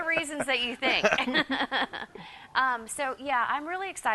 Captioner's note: both laugh